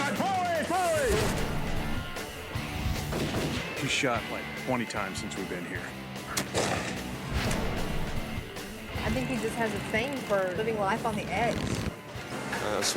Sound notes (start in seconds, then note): 2.6 gunshots